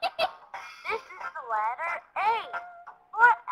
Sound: voiceover

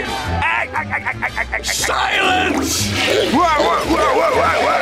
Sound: laughing; toilet flushing

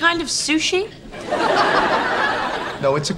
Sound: audience laughing

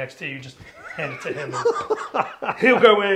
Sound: laughs

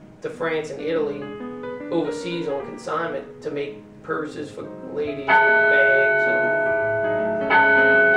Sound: bells

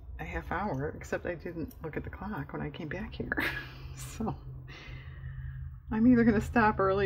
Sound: laughs

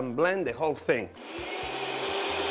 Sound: blender spinning

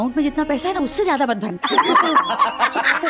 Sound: laughing

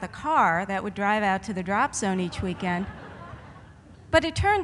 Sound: laughter

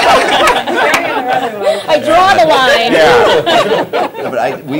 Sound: laughter

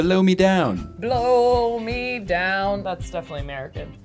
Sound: singsong voice

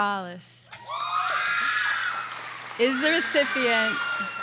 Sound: audience cheers and applauds

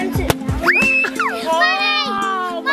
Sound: kid screams

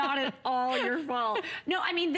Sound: laughter

